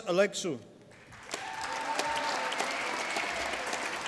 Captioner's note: applause